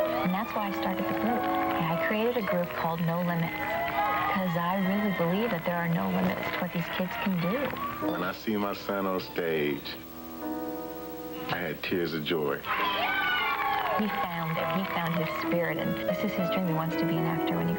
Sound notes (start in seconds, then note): 14.1 crowd cheering